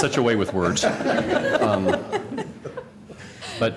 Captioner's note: laughter